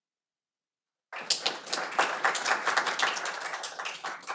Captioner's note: audience applauding